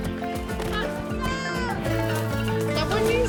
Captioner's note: child shouts